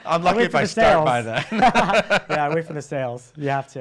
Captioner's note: laughs